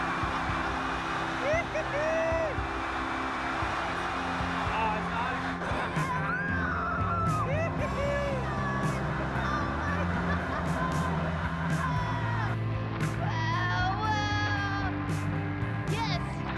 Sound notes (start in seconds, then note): 0.0 wind blowing; 7.2 excited screams